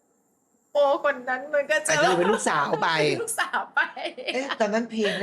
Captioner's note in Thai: เสียงหัวเราะ